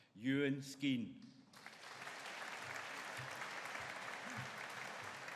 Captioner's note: audience applauding